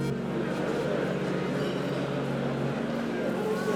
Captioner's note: noise of crowd